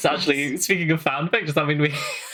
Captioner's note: laughing